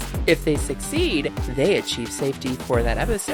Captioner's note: none